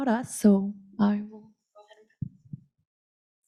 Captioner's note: audio cuts out